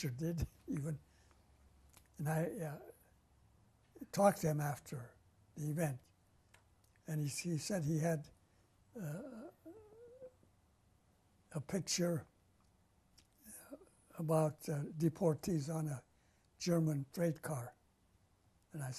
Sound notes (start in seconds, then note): 2.2 laughs; 9.0 pauses for 3 seconds